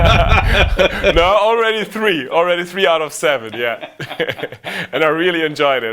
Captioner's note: both laugh; both laugh